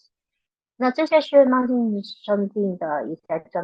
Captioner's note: speaking chinese